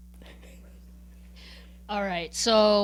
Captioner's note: chuckling